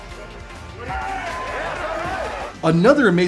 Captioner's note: people cheering; Mark Henry shouts